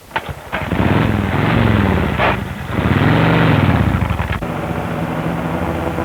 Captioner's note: motorcycle engine starts